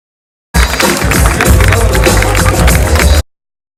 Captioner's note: applause